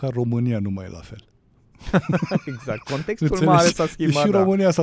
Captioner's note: laughter